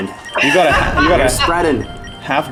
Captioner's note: laughter